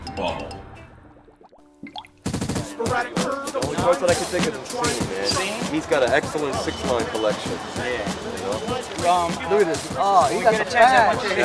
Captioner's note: chatter